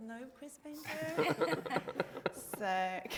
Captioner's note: group laughing